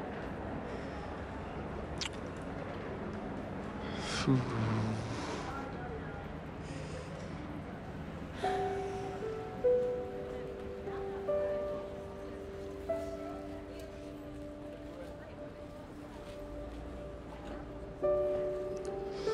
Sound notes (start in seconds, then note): 3.8 sighs; 7.9 sighs; 9.4 gentle music